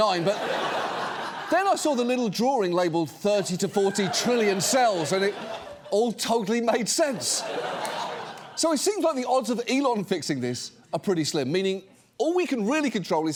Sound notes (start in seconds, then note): 7.0 audience laughs